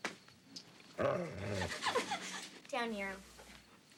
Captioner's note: Nero growls